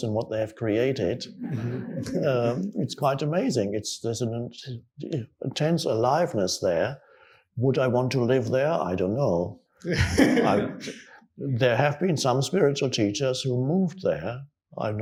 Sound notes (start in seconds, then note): 1.4 audience chuckling; 9.9 questioner laughs